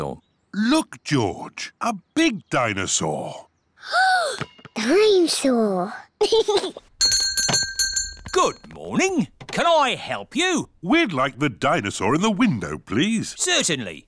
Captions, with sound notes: Look, George. A big dinosaur. (GASPS) Dine-saur! (GIGGLES) (BELL RINGS) Good morning! Can I help you? We'd like the dinosaur in the window, please. Certainly.